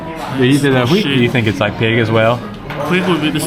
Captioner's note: speaking Vietnamese